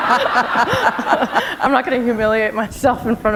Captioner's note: laughter